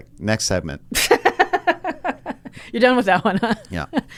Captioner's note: laughs